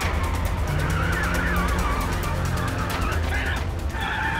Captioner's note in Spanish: Chirrido de llantas